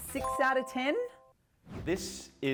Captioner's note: chime